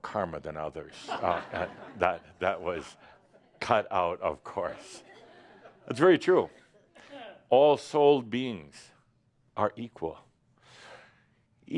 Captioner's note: laughter